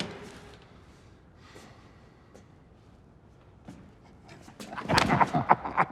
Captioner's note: lawyers exhales; both laughing